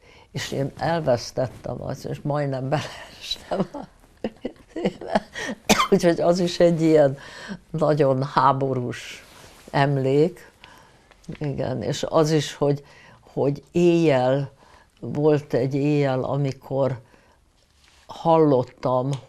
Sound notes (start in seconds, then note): 4.2 laughing; 5.3 coughing